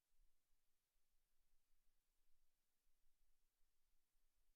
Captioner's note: none